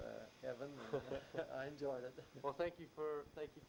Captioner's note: laughs